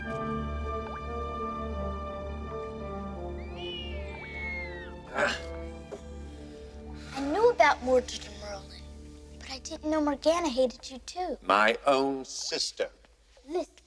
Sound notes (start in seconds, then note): 2.8 water dripping; 5.6 bird squawking